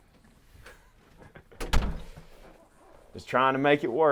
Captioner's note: chuckles; door bangs